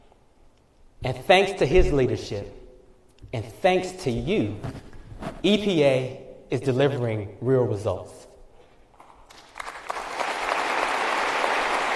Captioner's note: applause